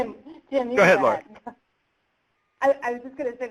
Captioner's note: laughs